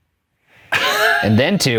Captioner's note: laughing